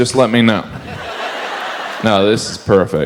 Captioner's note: audience laughs